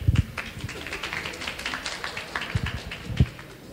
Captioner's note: clapping